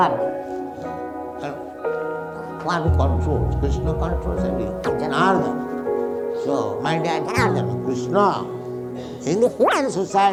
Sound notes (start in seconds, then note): 2.9 audio skips due to faulty equipment